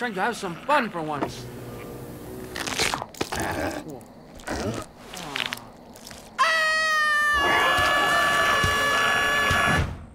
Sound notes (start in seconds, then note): 6.3 screaming; 7.6 growling